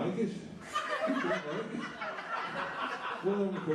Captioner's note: laughter